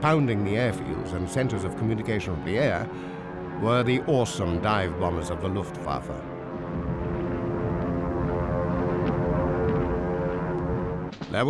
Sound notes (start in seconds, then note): 6.7 bombers droning